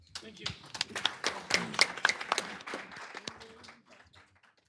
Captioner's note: applause